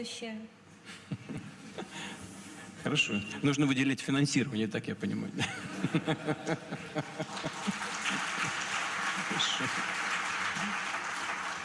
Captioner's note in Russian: Смех